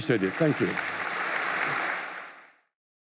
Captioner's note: applause